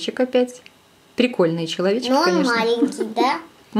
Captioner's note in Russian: женский смех